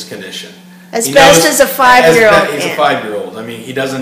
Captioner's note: voiceover